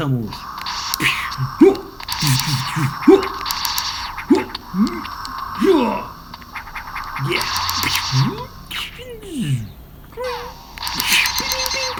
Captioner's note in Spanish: Ruidos molones